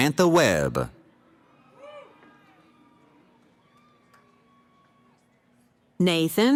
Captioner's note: cheering